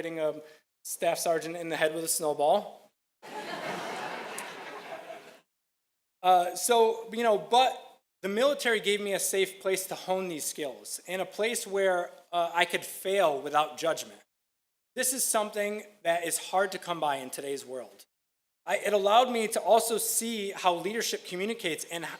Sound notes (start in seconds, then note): 3.2 audience laughing